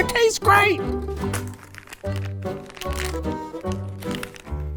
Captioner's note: packaging rustles